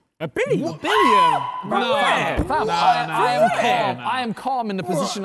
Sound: man screams

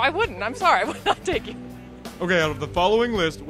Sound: laughs

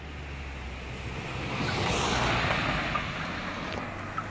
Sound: engine roars

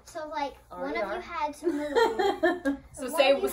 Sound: laughs

